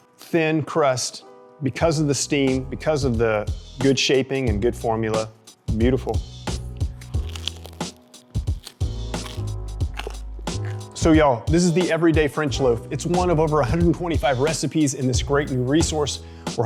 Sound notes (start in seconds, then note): 6.6 gentle elegant music; 6.8 bread crunching